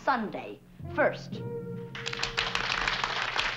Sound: applause

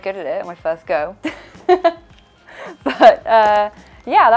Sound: laughing

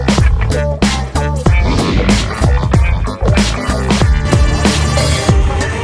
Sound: crocodile Sound

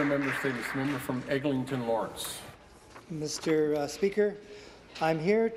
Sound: some Applause

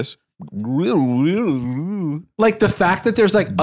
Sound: cartoonishly disoriented

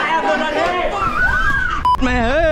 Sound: screams

